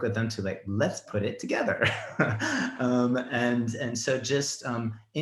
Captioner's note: laughs